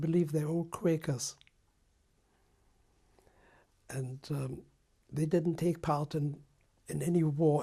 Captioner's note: pauses for 3 seconds